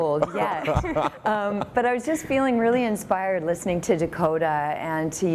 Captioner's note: laughter